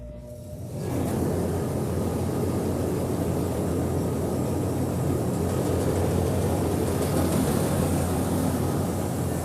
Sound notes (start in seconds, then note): 0.7 machinery engine roars